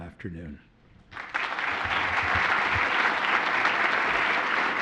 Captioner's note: applause